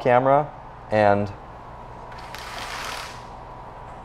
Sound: window shade raising

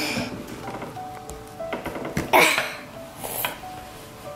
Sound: groaning

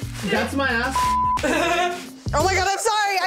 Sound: beep

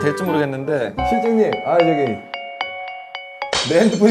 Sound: phone ringing outside...?

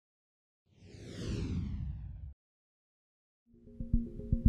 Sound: logo whooshes; bright subtle music

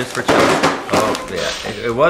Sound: clattering

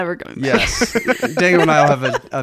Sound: laughing

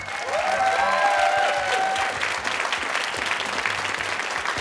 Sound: cheers and applause

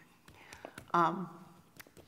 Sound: voice breaking

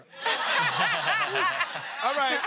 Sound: laughter

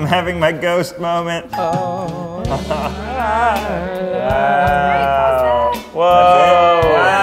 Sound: romantic music; ding

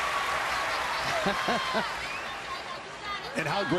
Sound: audience cheering

